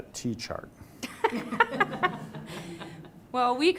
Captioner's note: laughter